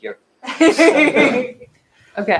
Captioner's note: laughter